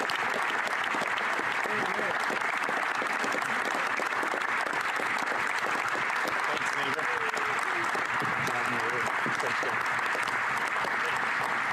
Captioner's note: applause